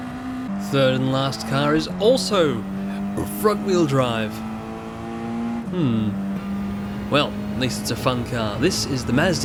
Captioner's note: burp